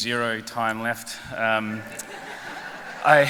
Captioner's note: laughter